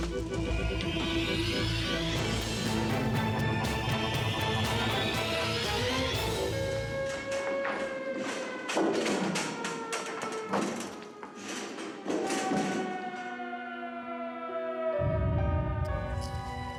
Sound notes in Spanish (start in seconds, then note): 6.8 la sirena sigue sonando